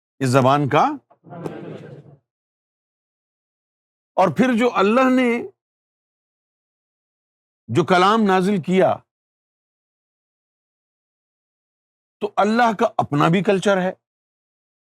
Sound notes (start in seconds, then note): 8.2 in Arabic